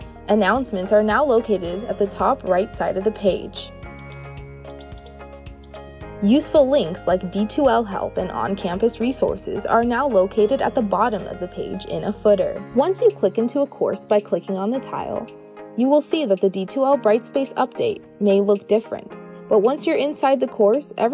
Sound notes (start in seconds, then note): 4.6 clicking